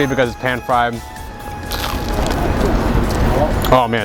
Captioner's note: more crunching